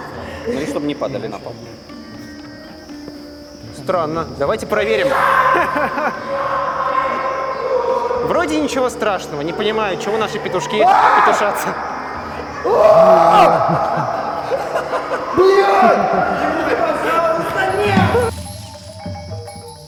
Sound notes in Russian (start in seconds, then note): 6.1 крик; 12.4 крик